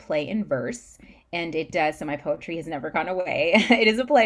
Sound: laughs

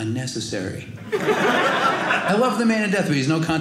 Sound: audience laughing

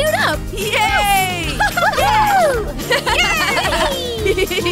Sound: laughter

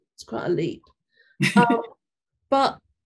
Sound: laughing

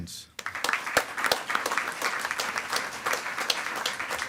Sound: attendees clapping

